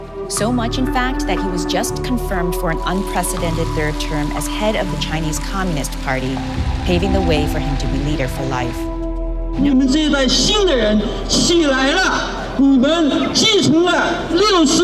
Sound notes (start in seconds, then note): 10.0 speaking in foreign language